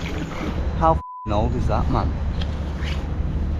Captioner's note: beep